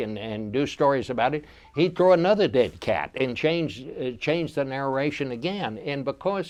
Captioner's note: none